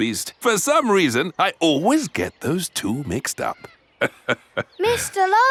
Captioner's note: laughs